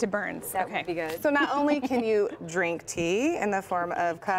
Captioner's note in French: laughter